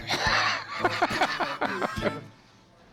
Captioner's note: laughs